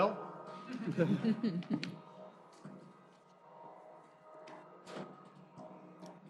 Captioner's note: laughter